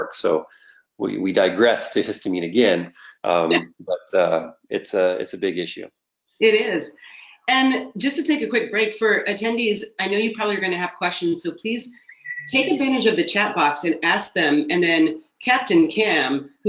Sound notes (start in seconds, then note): 1.0 laughing